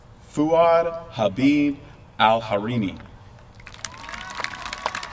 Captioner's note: applause